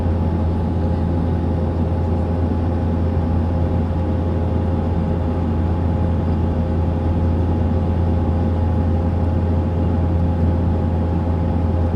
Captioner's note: aviation noise